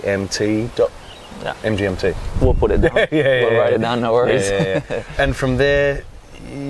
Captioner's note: risas